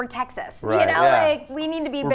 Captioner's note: laughs